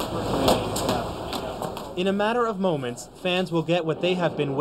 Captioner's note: plastic swords hit each other